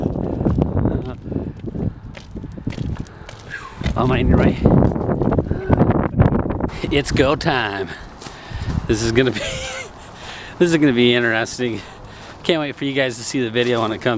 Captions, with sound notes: - Am I in your way? It's go time. This is gonna be, (laughs) this is gonna be interesting. Can't wait for you guys to see the video